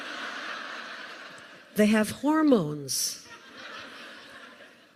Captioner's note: laughter